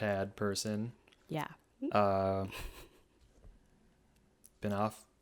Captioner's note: laughs